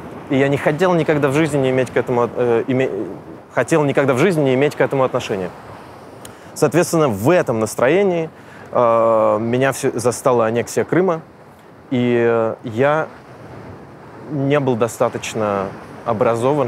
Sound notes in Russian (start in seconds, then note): none